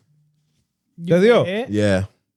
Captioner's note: speaking In Foreign Language